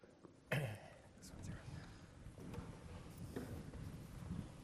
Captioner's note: someone clears throat